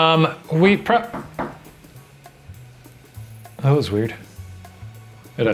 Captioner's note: knock on door